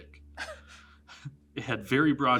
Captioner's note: giggles